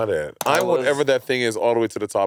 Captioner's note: mouse clicking